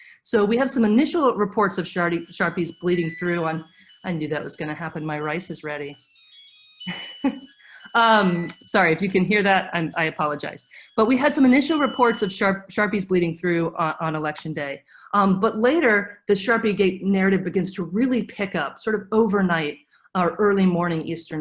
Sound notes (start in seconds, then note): 5.9 alert playing; 6.8 chuckles